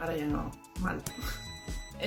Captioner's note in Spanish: sonido: piiii